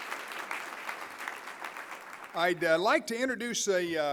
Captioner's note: applause